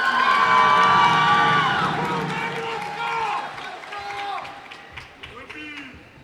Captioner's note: cheers and applause